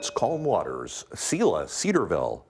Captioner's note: bell ringing